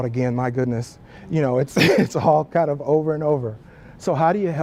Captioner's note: laugh